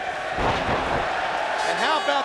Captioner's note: Goldberg thudding